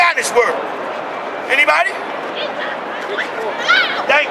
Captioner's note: crowd